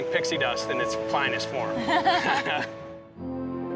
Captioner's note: all chuckle